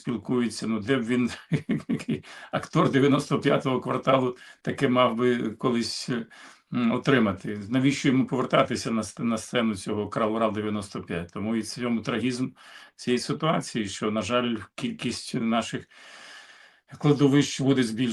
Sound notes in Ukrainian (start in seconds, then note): 1.2 сміх; 6.2 сопіння